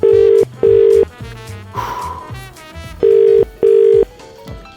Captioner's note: dial ringing